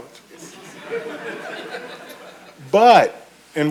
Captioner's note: audience chuckles